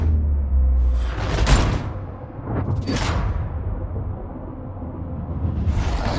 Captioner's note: door closes